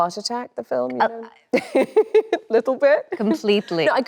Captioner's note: laughs